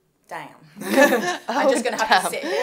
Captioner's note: laughs